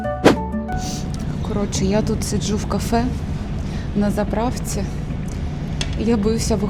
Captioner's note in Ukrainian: сопіння